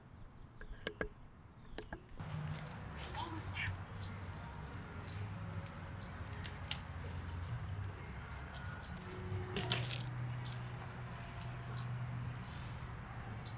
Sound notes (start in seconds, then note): none